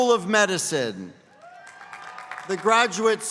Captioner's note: applause